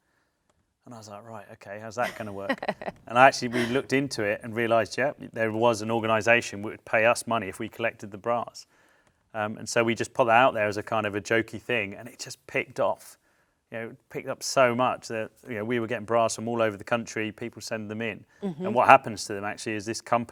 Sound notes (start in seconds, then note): 2.0 laughs